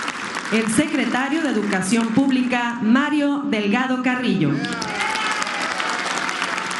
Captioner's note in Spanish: aplausos; aplausos